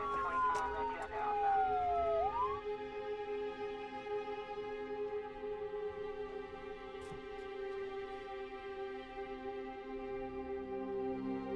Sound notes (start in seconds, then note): 0.0 sirens blaring